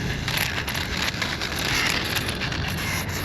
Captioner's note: crunching and grinding noise from gyro